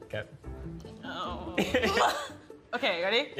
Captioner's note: laughing